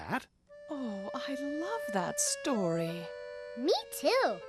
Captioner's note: none